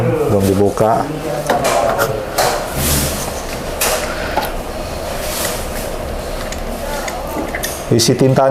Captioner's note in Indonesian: suara tinta dituang